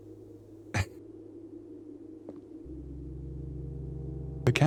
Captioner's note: chuckles